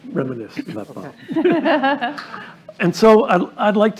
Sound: laughter

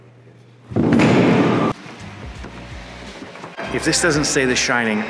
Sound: loud crash

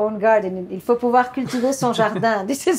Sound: speaking French

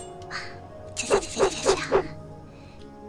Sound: makes knife noises

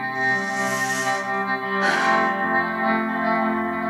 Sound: sighs

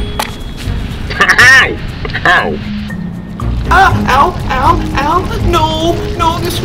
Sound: Vader laughs; cries out in pain

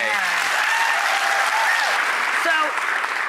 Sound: applause

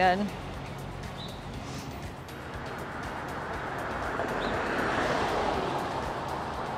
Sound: upbeat music; car whirs

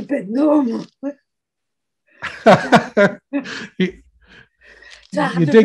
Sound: both laughing

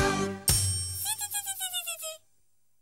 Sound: buzzing

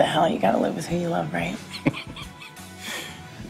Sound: laughs

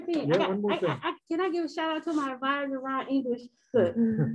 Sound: murmur

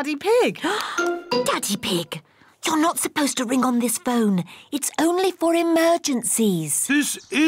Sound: gasps

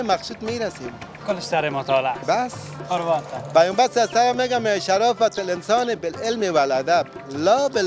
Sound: arabic words

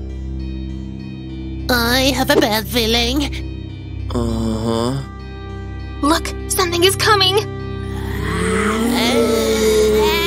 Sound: echoing wheezing and howling

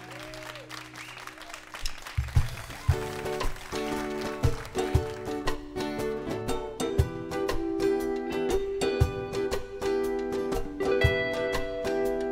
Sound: applause

